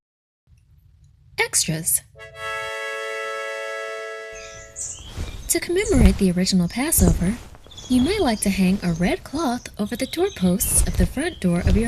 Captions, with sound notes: Extras! (bright horn music) (birds chirping) (fabric flapping) To commemorate the original Passover, you might like to hang a red cloth over the doorposts of the front door